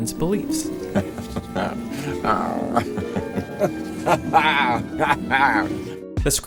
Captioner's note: Malcolm laughs